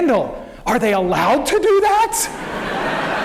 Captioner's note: laughter